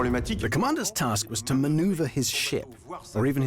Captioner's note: voiceover